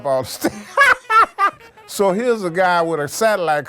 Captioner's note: laughs